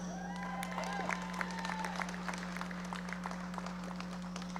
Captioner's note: audience applauding